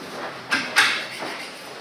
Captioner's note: clacking